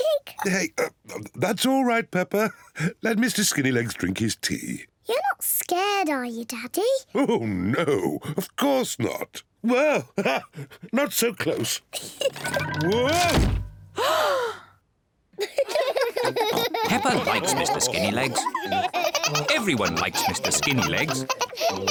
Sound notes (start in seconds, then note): 10.2 laughs; 14.0 gasps; 15.4 all laugh